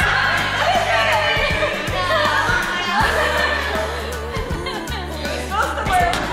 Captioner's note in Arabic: حديث جماعي ويضحك